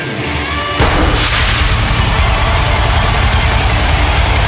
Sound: pyro explosion

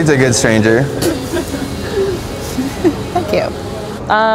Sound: woman laughs

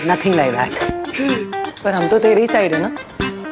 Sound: inhaling

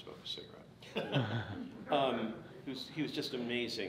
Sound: everyone chuckles

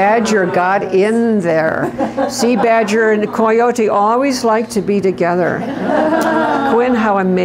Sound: laughter

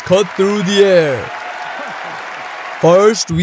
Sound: cheering

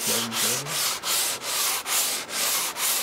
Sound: grinding noise

